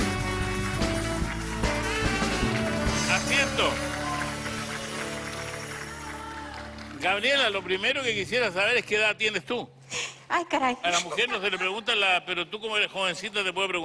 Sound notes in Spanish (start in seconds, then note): 3.1 aplausos